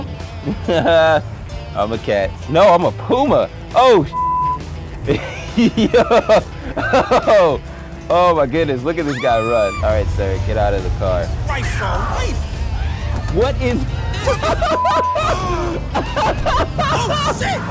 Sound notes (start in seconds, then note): 5.0 laughs; 8.5 people scream; 11.5 driver yells; 13.6 laughs uproariously